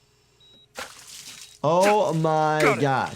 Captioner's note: doctor grunts